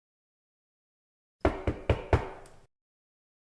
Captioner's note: distant knockings